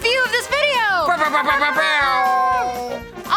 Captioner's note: both imitating air horn